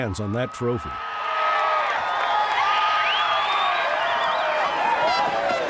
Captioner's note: crowd cheering